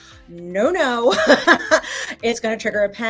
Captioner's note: laughs genuinely